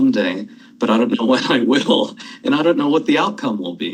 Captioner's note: chuckles